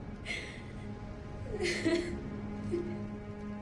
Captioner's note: crying grows